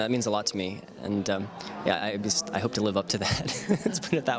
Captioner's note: laughs